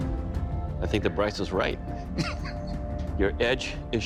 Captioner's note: laughs